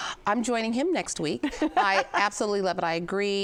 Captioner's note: laughs